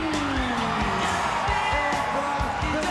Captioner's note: crowd cheering